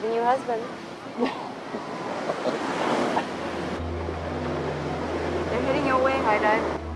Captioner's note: laughs; mysterious music